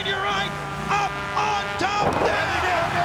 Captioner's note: body thudding